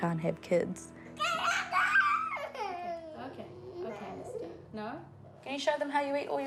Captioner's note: babbles angrily, cries